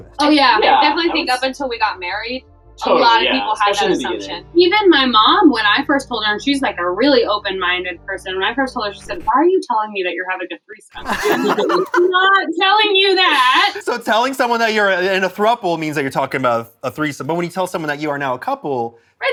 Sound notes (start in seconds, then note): 10.9 laughs